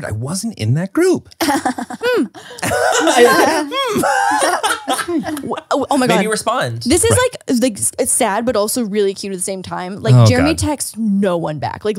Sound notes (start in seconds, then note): 1.4 Manny and Laura laugh